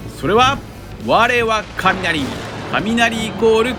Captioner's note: thunder